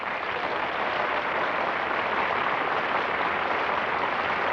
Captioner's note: applause